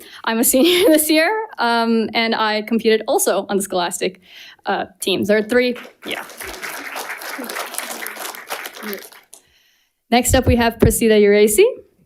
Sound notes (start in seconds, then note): 5.6 audience applauding